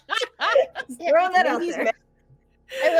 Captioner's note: person laughing